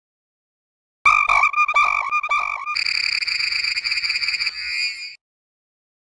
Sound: bird sing

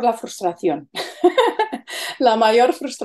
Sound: laughs

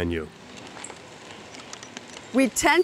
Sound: fire crackling

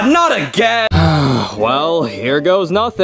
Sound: Mario sighing

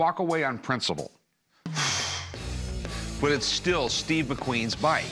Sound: exhales

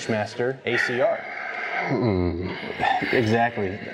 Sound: sighs

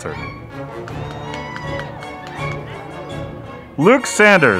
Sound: audience applauding

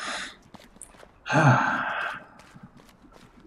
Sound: sighs

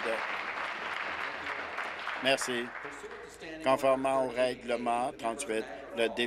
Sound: applause

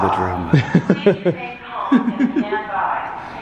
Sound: laughs; chuckles

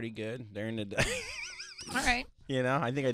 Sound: laughing

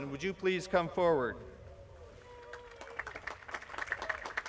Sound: applause

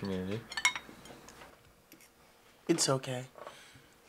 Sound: dishes clink

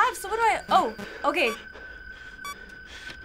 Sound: in game: system blips

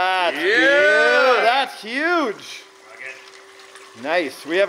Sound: shouts

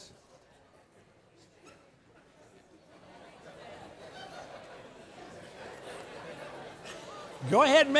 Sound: indistinct chatter

